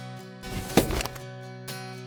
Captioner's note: gun shot